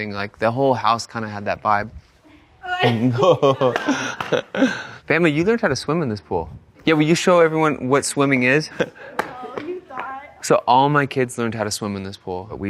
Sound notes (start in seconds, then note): 2.7 laughing